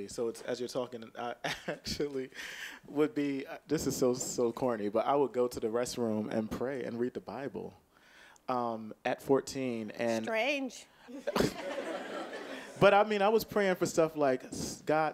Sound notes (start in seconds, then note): 11.2 audience laughing